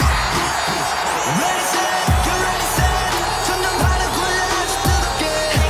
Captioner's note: audience roars